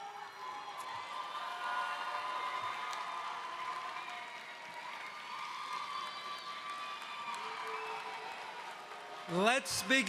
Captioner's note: applause